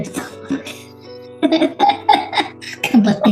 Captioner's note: laughs